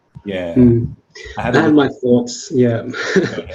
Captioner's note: laughs